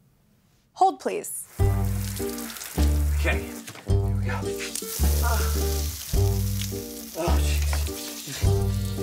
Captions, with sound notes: - Hold, please. (water leaking) - Okay, here we go. (slow music) Ah, jeez.